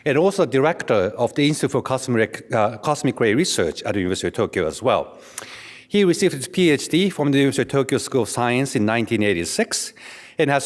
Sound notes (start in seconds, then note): none